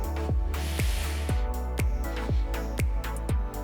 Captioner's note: exhales